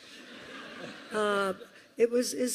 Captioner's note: laughter